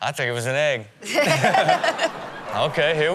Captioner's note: crowd laughing